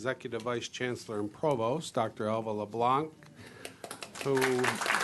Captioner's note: applause